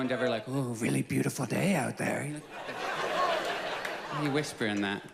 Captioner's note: whispered